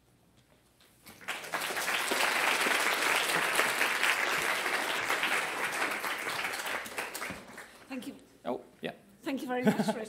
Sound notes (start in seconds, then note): 5.6 applause